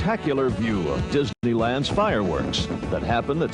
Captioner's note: fireworks popping